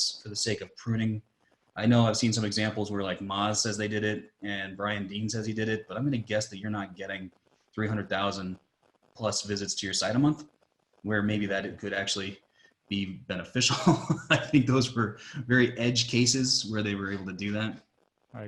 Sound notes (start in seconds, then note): 13.1 laughing